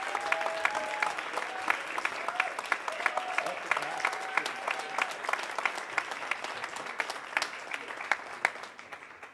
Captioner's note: cheers and applause